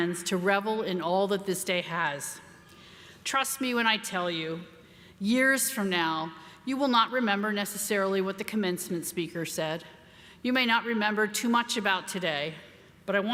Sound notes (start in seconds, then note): none